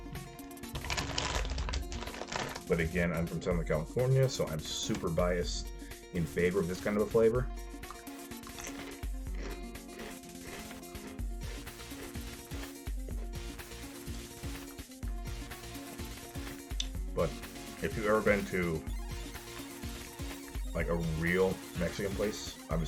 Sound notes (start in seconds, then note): 7.8 ambient chip enjoyment